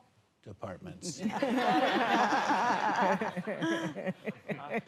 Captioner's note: laughter